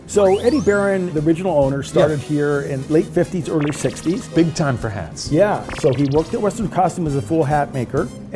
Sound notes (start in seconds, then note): 0.1 digital pulsing; 3.5 digital pulsing; 5.3 upbeat music continues